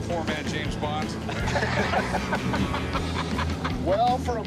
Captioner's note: laughter